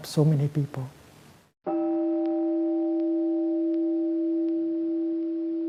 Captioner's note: meditation chime